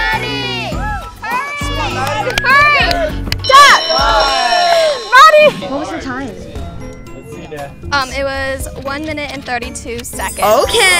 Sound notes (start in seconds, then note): 3.4 bell rings; 3.4 everyone cheering